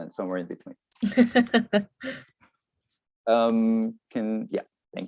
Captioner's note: laughs